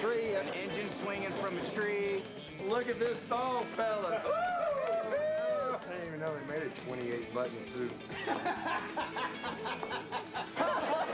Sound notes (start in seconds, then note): 3.8 men cheering; 8.0 laughs